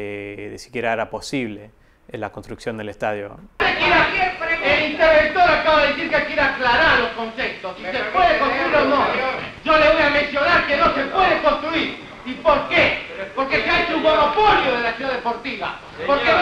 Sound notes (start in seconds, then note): 12.7 fire alarm pulled